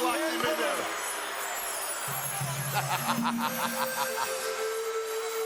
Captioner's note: laugh